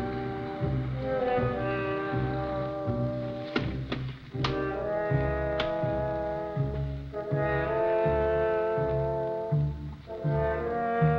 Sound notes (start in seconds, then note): 5.0 latches clicking